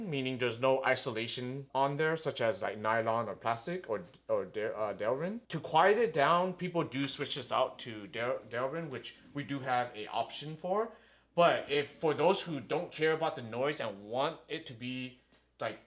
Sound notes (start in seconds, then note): none